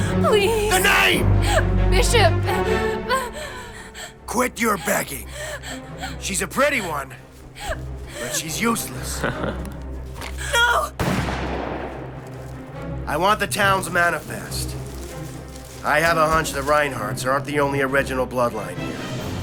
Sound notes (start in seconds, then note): 8.2 outlaw laughs; 11.0 gunfire pops